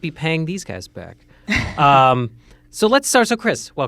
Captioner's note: chuckles